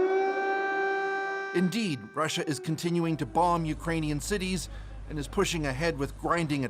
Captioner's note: sirens